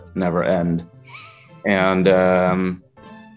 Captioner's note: laughing